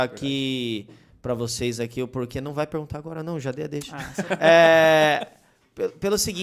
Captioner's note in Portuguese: risos